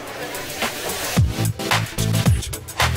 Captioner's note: crowd chatting; upbeat music